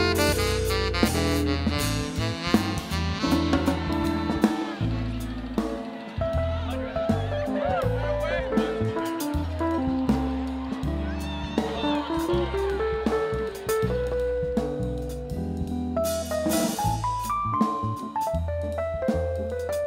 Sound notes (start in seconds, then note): 8.1 students chattering; 14.8 cheering continues